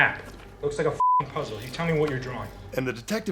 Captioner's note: beeping